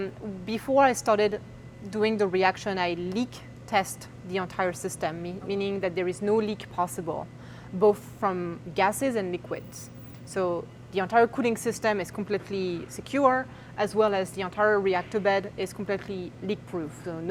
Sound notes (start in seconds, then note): none